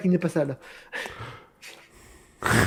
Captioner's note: small laugh; laugh